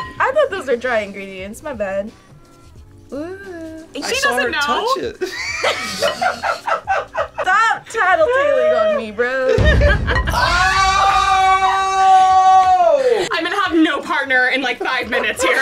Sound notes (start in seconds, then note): 5.2 laughs; 10.0 screaming